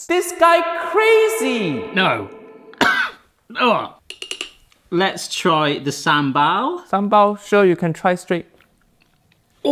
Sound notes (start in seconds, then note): 2.7 coughs; 4.0 spoon tapping